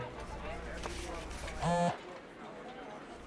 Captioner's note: phone vibrates